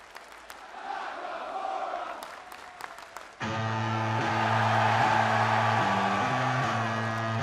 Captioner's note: fans chanting